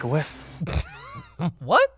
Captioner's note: snorts all over the mic